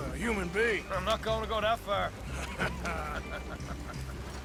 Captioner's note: he and Arthur laugh